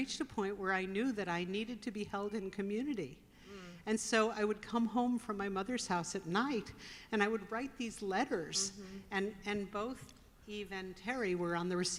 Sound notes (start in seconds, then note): none